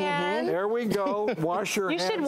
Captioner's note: laughs